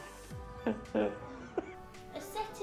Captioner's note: laugh